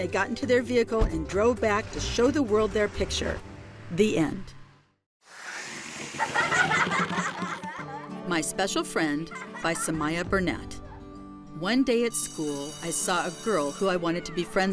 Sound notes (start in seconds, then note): 5.9 children laughing; 7.3 logo whooshing